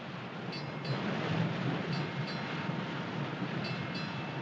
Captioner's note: bell Clanging